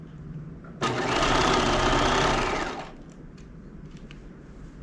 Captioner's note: sewing machine whirling